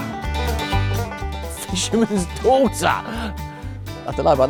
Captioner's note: laughing